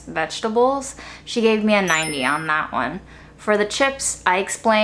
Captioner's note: chimes tinkling